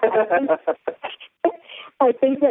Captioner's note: laughter